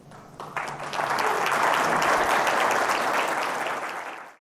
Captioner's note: audience applauds